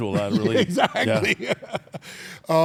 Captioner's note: laugh